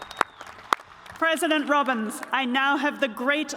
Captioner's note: cheers and applause